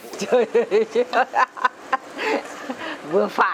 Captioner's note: laugh